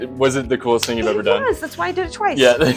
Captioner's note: hands smack